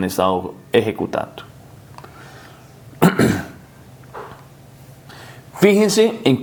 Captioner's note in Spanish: carraspeo